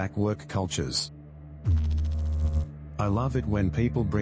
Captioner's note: electrical noise